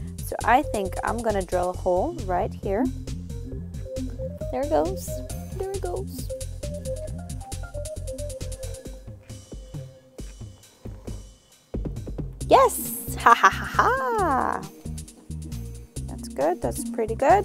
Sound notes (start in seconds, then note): 13.0 chuckling